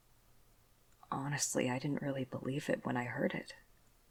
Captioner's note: none